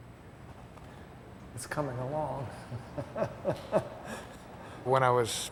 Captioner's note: laughs